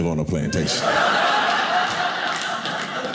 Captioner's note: audience laughing